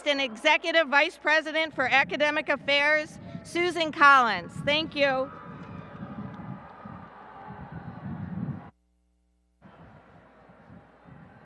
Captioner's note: applause and cheering